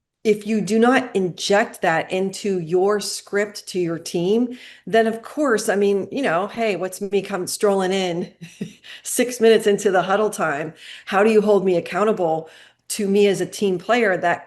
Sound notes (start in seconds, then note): 8.4 chuckling